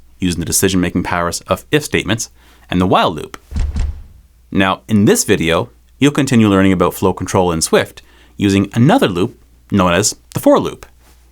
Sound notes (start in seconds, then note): 3.4 text thumping